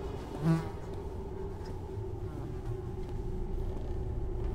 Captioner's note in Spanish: Zumbido